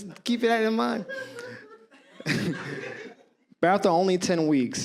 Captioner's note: audience laughs